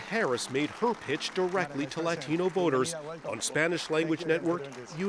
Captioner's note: applause